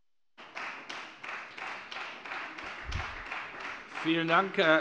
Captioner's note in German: Beifall Freie Demokraten